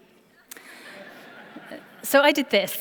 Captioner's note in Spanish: Risas